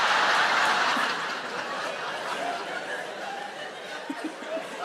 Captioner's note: audience laughing; Sarah chuckling